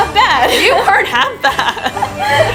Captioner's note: laughs